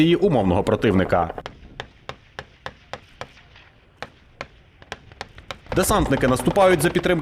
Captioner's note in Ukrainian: звук пострілів